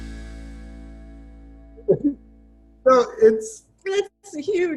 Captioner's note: crying